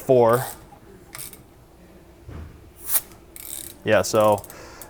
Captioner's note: ratchet clicking